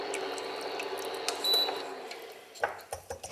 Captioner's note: beep